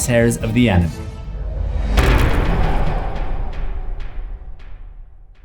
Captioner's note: impact